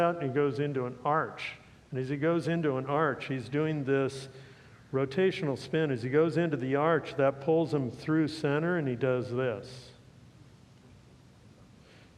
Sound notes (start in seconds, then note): none